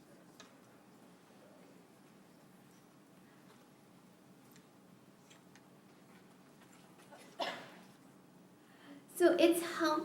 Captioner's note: silence